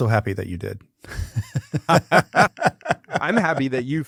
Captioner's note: laughing